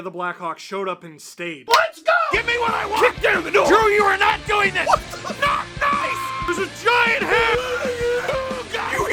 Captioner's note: Harry potter screaming; screaming